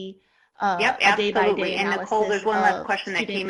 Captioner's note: murmurs